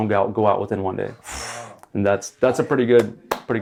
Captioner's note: blows air out; claps